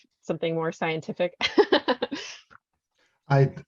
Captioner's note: laughs